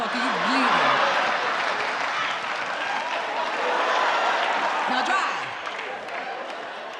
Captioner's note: audience laughter drowns out her voice